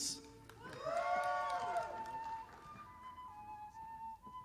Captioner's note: audience applauding